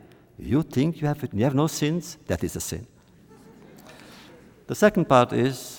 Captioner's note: laughter